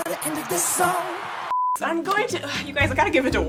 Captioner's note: hip hop music; beep